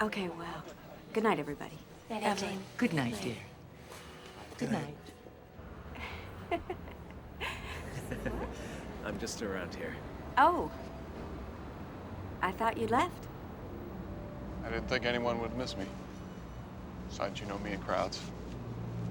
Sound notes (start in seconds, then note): 7.3 jane chuckling